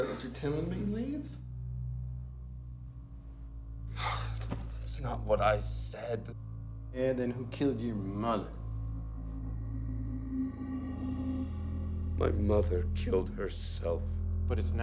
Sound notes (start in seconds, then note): 3.9 Lance sighs; 9.8 tense music